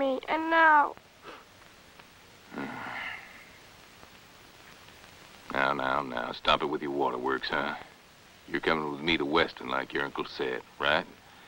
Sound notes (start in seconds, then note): 2.5 sigh